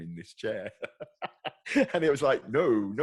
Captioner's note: laughs